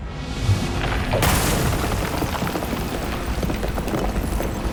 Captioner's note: rocks crumbling